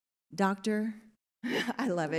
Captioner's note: chuckles